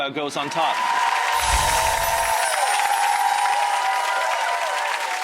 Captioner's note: audience applause